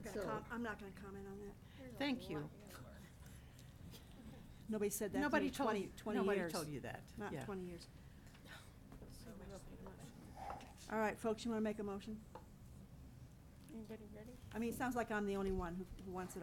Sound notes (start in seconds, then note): 3.4 people chattering